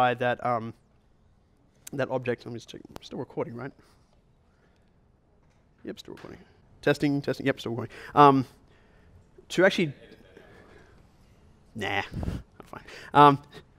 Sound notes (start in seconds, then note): 10.1 voiceover